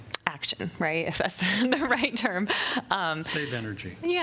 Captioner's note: laughter